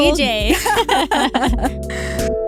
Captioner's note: laughing